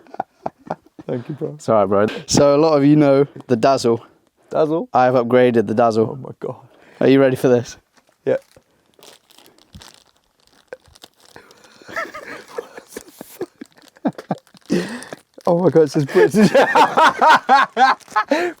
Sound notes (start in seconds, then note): 0.0 laughing; 9.1 bag crinkling; 11.8 laughing; 16.0 both laughing